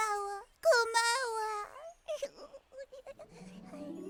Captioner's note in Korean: 웃음소리